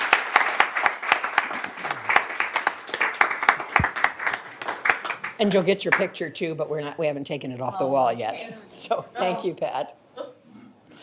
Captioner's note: applause